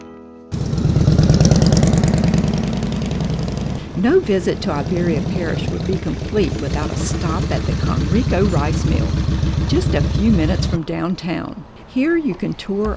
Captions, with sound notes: (engine roaring) No visit to Iberia Parish would be complete without a stop at the Konriko Rice meal, just a few minutes from downtown here you can tour